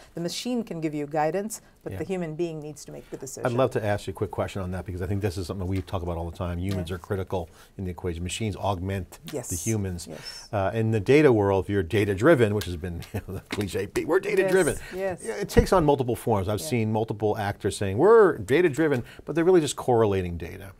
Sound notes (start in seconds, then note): 13.2 laughs